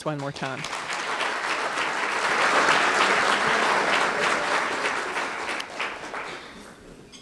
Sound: applause

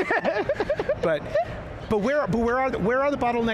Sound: panelists laughing

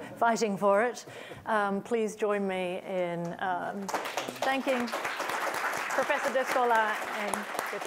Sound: applause

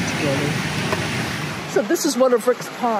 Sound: fish splashes

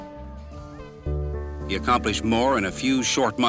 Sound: horn blares

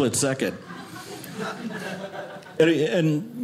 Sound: audience laughing

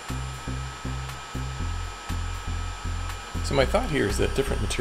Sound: sound of heat gun powering up

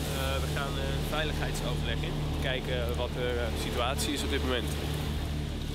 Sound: speaks in foreign language

